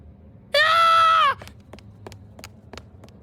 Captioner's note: screaming